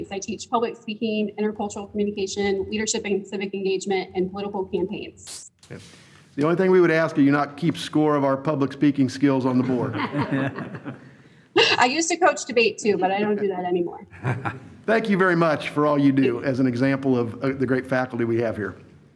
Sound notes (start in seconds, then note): 9.6 all laugh; 14.1 laughs